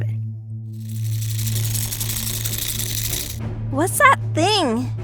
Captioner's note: mechanical clacking enters room